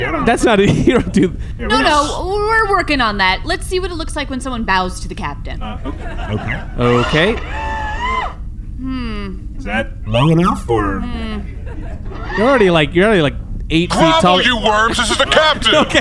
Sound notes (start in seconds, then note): 5.6 sound of servos as C-53 bows; 8.7 hmmms; 11.6 hmmms